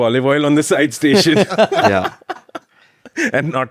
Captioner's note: laughs